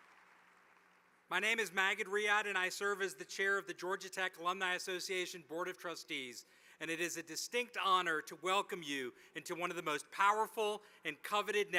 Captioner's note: applause